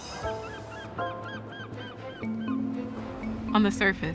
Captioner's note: gulls crying